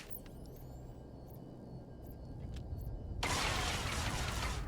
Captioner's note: gun firing